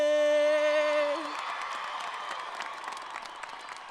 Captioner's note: applauding